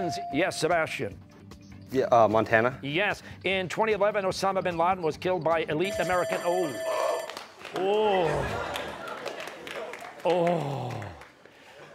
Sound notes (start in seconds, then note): 5.8 bell ringing; 8.1 audience laughing